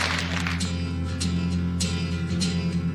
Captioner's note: applause